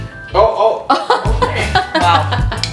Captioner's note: laughing